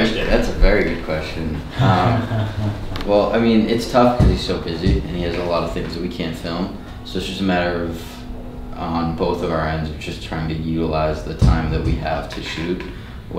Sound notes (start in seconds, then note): 1.6 laughing